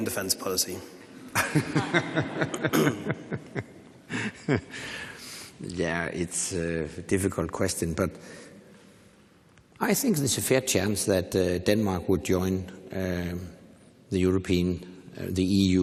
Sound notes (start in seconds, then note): 4.1 laughs